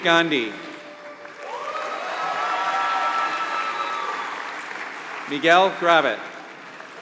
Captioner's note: applause